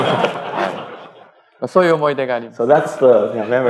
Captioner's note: speaking japanese